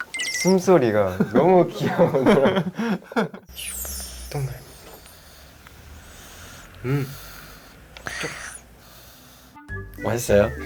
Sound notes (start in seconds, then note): 3.9 sound of breathing when she was focused